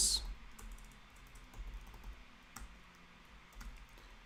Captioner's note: keyboard clicking